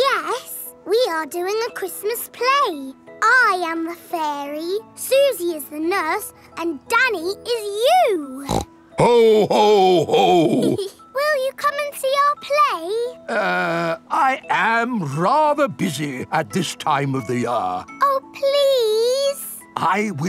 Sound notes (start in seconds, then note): 8.4 snorts; 9.0 giggles